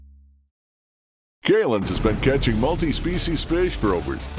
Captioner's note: voiceover